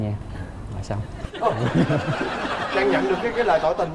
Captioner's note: laughing